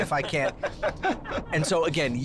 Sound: laughter

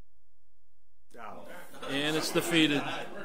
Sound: overlapping chattering

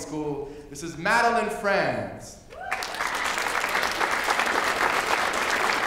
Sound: applause

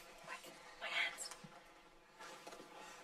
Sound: whispering

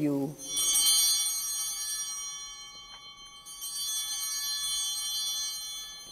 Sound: bell ringing

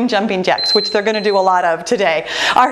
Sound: timer beeping

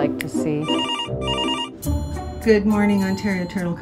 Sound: phone rings

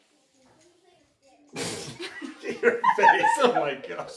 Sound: laughter

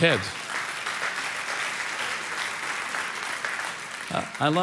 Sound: congregation applauding

